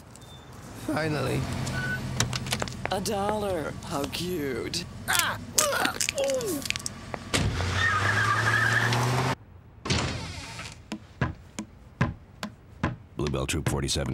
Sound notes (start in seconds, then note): 5.0 groaning; 7.4 tires squealing; 9.8 door opening